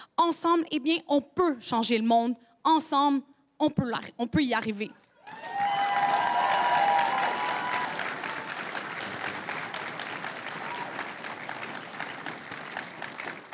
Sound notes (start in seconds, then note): 5.2 crowd cheering and applauding